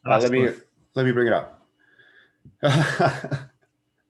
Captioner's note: laughs